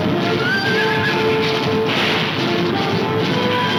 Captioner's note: gunfire pops